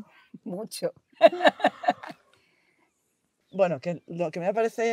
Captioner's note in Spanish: risas